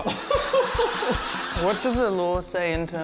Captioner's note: laughs